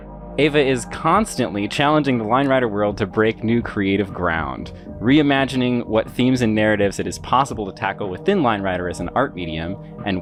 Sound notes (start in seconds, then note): none